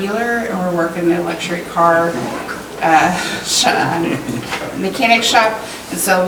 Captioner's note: directors chuckling